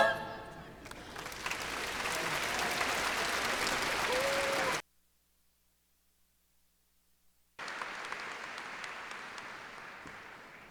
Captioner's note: applause